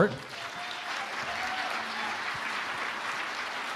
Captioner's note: audience applauding